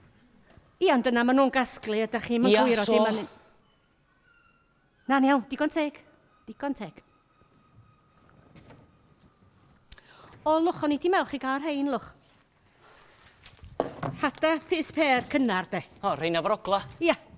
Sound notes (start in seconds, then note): none